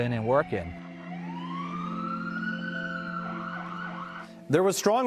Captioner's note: siren blaring